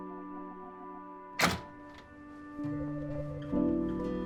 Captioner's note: door rattling; expressive piano over uneasy electronic music